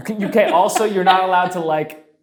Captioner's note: laughing